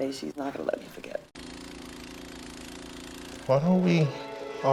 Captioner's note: snowblower whirling